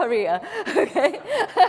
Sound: laugh

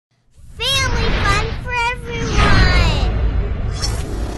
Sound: voiceover

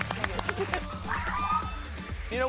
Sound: screaming

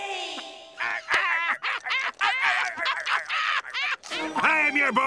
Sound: laughing

